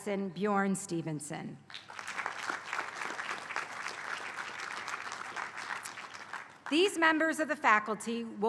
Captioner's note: applause